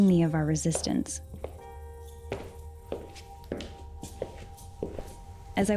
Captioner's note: footsteps falling